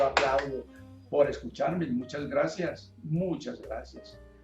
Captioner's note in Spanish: Diapositiva una persona aplaude